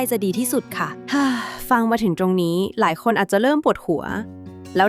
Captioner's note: sigh